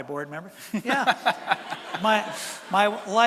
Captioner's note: laughter from audience